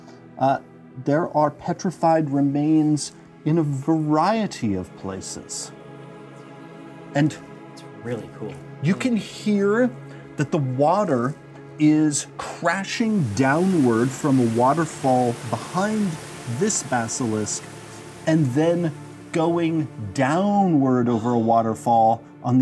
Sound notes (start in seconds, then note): none